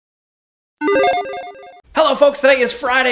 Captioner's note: logo beeps